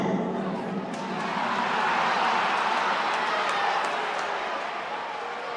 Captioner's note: crowd cheering and booing